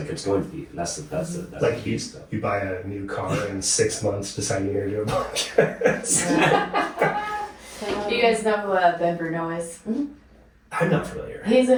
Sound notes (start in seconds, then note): 5.0 laughing